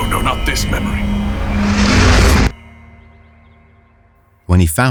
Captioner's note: void sounds disappear, leaving distant calm summer sounds